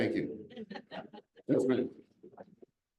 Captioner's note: audience laughs